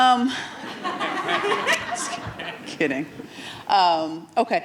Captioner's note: audience laughing